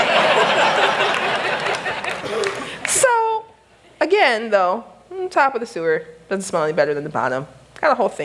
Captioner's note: laughter